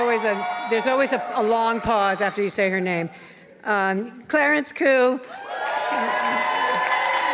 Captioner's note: applause and cheers